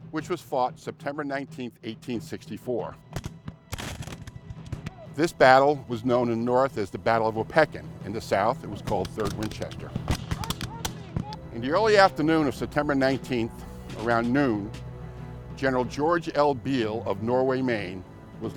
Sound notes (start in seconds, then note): 3.1 gunshots; 9.9 gunshots; 10.2 soldiers shout